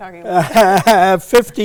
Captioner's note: laughs